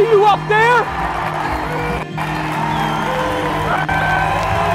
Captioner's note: crowd cheering